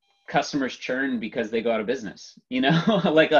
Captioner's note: laughs